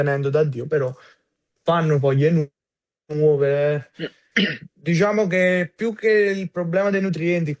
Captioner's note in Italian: schiarire la voce